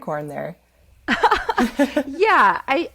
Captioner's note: laughing